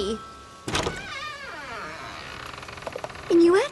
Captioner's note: door creaks open